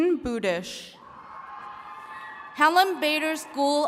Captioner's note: attendees cheering